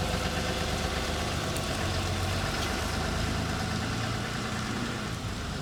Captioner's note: truck engine revving